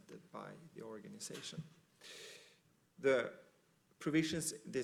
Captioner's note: none